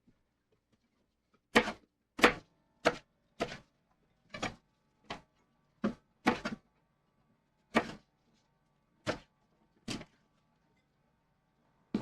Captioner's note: knife cutting